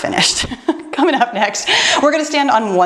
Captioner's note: laughs